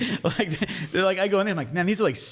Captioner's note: laughs